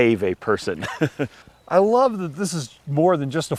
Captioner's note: laughs